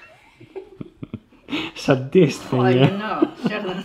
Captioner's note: giggle